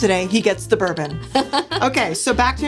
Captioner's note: laughs